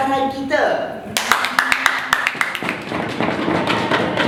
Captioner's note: Jalak applauds profusely